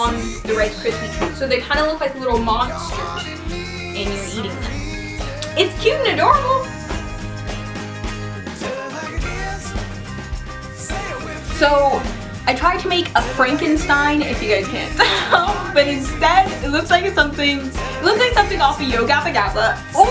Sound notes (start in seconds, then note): 7.3 country music; 14.7 laughs